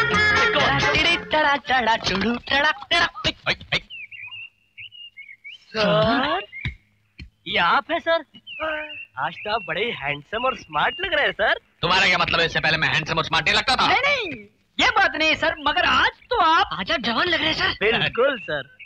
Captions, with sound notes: Come on.. [Humming] Sir.. Is this you,. Sir? You seem to be very handsome and smart today, sir. Did I not look smart before? No.. no. it is nothing like that, sir. But today.. You seem so young today, sir. - Yes sir.